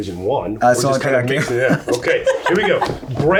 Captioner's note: laughs